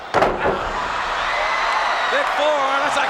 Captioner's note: crowd cheers